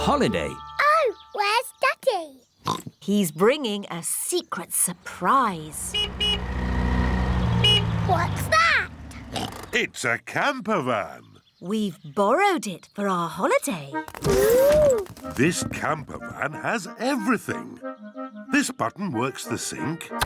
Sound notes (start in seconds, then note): 2.6 oinks; 5.7 horn honks; 9.3 oinks